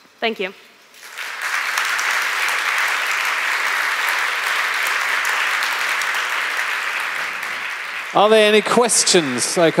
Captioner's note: applause